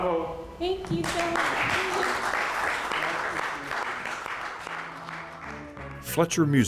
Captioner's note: audience applauds